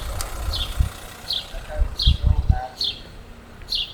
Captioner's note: birds chirping